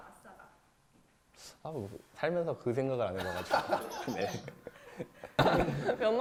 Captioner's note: laughing